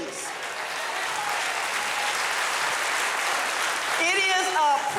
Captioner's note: audience applauding